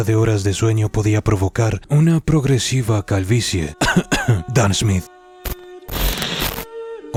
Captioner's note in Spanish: cough cough